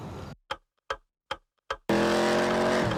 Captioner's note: clock ticking sound